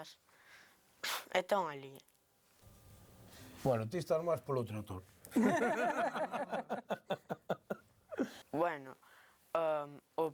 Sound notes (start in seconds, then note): 5.4 all laugh